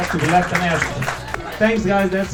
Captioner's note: applause